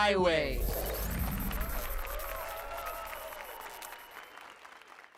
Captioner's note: applause and cheers